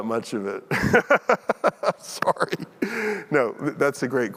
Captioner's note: chuckles